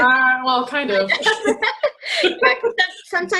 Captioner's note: laughing